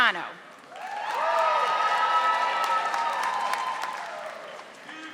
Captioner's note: audience applauding